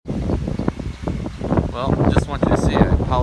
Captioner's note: wind blowing